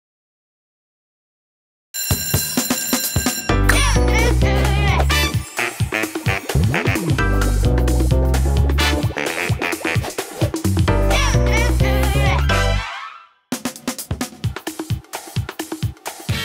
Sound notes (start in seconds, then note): 1.9 bell ringing